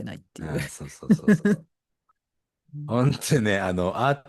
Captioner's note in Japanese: 笑い